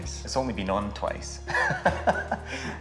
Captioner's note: laughs